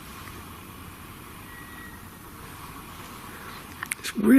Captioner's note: whistling